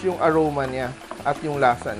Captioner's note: sizzle